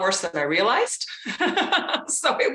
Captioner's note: laughs